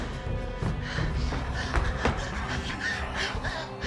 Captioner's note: Claire panting